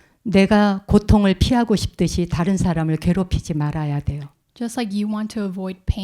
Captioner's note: speaking in Korean